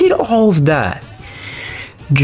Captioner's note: inhales Oxygen